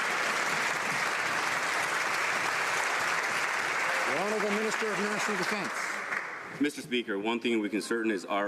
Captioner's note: some Applause